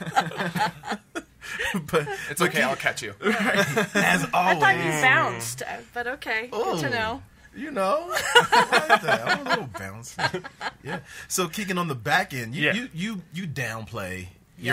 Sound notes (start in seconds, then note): 0.0 laughter; 8.1 laughter